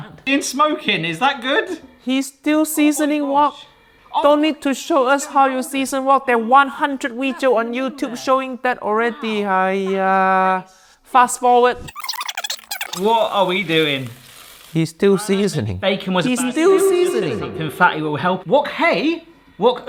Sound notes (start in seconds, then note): 14.3 oil sizzling